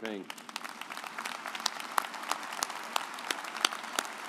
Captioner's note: audience applauds